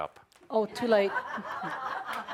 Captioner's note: laughter